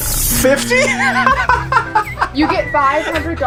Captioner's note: laughing